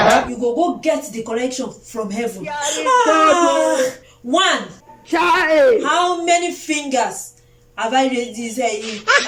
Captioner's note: laughter